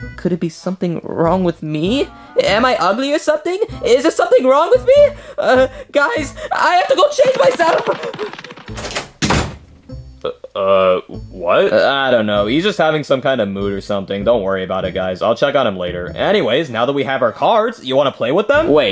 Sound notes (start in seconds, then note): 9.5 door slams